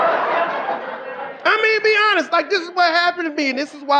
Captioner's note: audience laughing